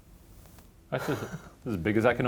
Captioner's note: laughs